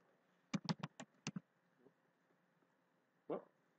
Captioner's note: typing